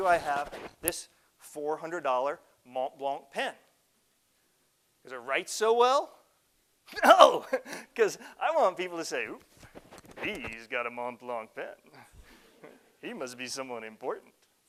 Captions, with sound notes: Now, why do I have this 400 dollar Montblanc pen? 'Cause I write so well? No! (laughs) 'Cause I want people to say, "Ooh! "He's got a Montblanc pen. He must be someone important."